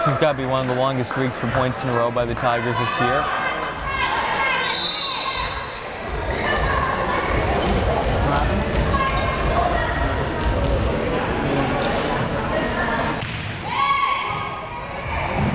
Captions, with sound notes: This has gotta be one of the longest streaks for points in a row by the Tigers this year. (whistle blares)